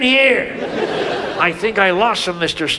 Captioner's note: audience laughs